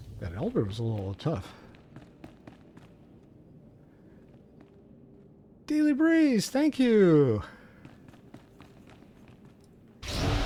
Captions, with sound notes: That elbab's a little tough. [footsteps] Daily breeze, thank you. [footsteps]